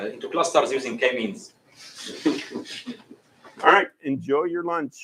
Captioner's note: laughter